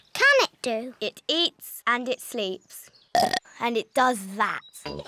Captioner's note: burps